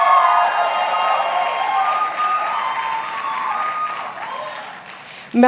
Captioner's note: applause